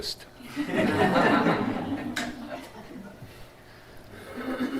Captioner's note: laughter